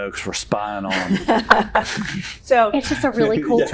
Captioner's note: laughter